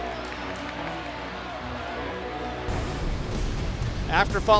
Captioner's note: crowd cheering